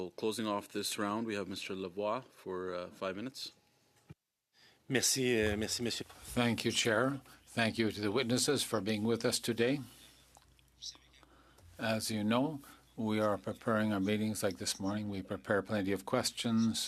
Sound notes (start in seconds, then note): 10.1 speaking French